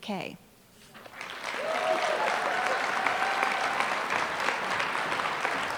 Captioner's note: applause